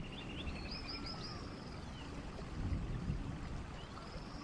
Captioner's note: birds chipping